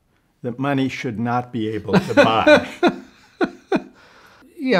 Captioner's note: laughs